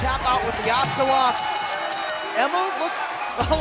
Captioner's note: bell ringing